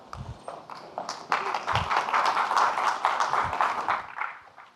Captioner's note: audience clapping